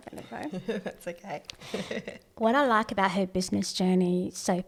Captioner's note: laughs